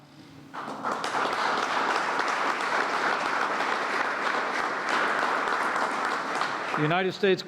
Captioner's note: applause